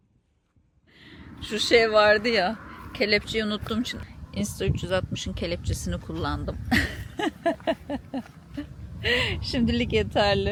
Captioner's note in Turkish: kahkaha